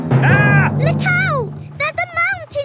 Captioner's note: captain dog screams